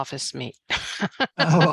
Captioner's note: laughs